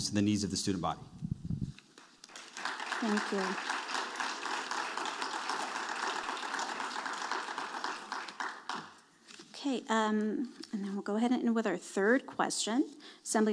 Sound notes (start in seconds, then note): 4.2 audience applauding